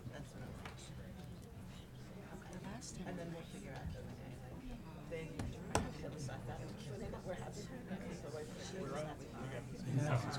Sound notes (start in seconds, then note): 5.5 people chattering